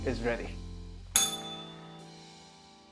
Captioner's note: bell rings